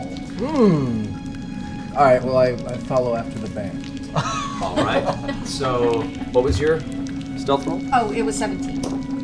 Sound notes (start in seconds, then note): 4.1 laughter